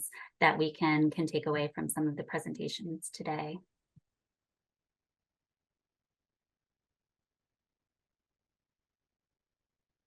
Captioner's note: pause